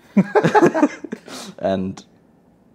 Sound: group laughing

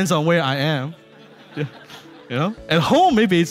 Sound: laughing

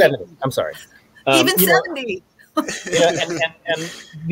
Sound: laughing

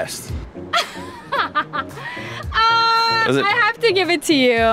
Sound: laughing

